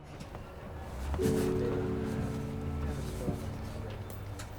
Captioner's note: engine rumbling